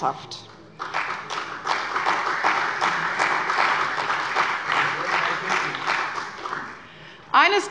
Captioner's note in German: Beifall bei der CDU